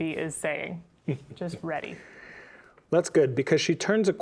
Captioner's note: chuckling